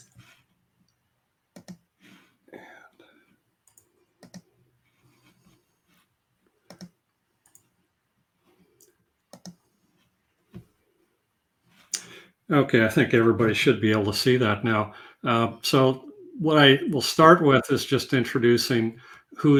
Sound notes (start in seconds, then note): 1.5 computer key clicks; 4.8 computer key clicking